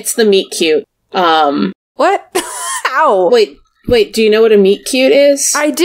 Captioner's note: laughs